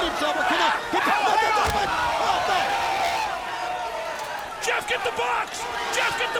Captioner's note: commentators vocalizing